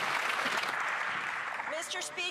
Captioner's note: applause